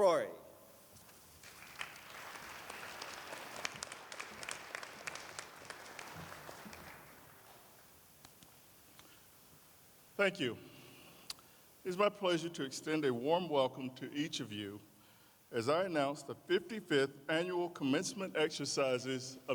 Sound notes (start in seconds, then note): 4.1 applause